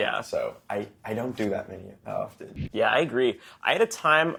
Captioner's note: none